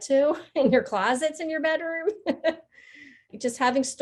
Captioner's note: laughing